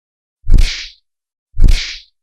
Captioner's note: punch Sound